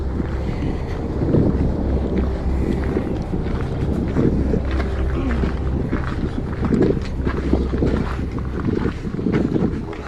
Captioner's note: wind